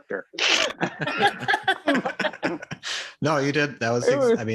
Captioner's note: all laugh